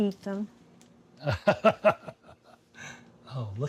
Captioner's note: laughing